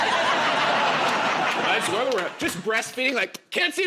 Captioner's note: laughter